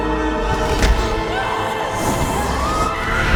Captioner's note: explosions thump; screaming